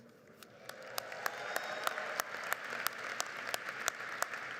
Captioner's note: crowd applauds